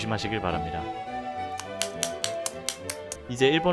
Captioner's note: hammering of anger